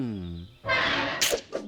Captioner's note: gate opens